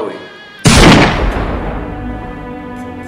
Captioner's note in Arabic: ضربة مسدس